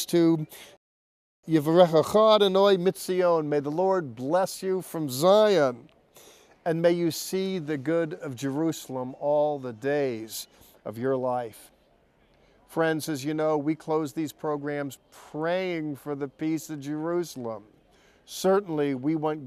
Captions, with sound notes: for these special pilgrimages that pilgrims give voice to, [Speaking first in Hebrew] "And may you see the good of Jerusalem all the days of your life." Friends, as you know, we close these programs praying for the peace of Jerusalem.